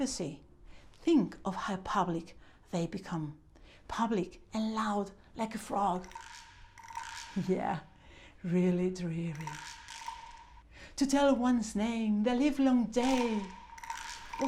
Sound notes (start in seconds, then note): 6.7 frog croaks; 13.5 frog croaks